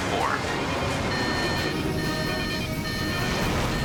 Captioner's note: alarm